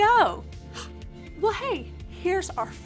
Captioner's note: gasps